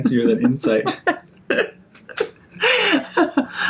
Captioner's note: laughing